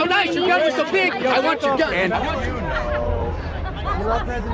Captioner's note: confused yelling